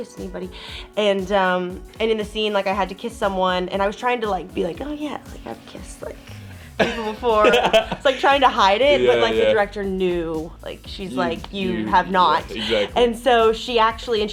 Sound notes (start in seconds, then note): 6.3 Justice laughs